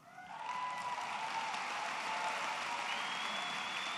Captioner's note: applause